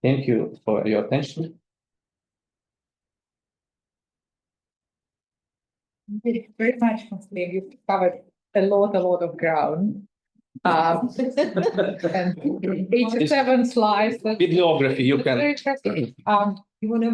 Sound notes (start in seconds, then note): 10.7 attendees laughing